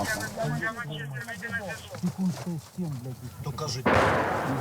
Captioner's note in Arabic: الصوت المنطوق الأوكراني